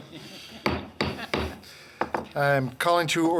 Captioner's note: gavel strikes